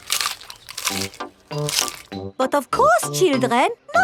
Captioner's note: munching